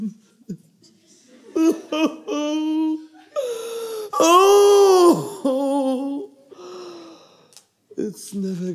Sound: cries

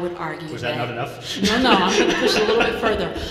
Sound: laughing

